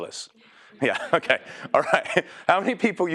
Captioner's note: laugh